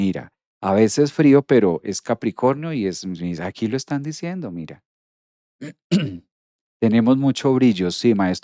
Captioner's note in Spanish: carraspeo